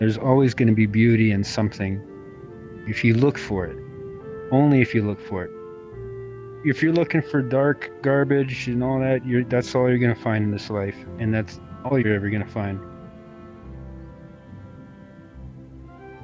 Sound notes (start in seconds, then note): none